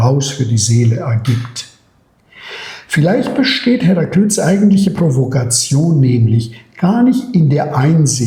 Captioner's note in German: räuspern